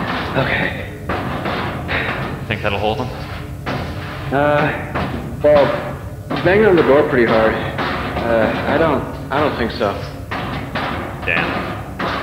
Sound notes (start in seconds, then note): 1.8 sigh